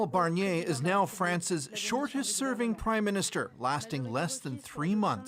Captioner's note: speaking French